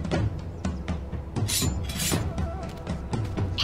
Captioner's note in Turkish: Bıçak sesi